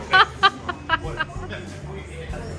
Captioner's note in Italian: Risate